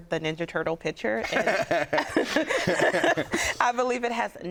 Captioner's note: laughing